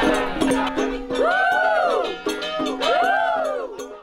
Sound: chanting

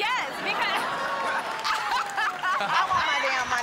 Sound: audience cheers

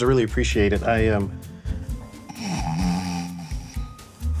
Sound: snoring

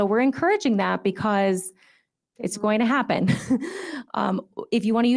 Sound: chuckles

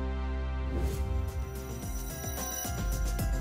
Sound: whoosh

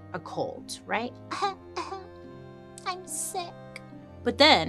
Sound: coughs

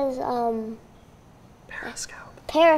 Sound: whispering

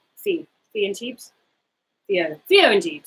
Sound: speaks quietly

